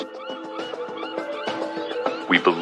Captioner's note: seagulls squawking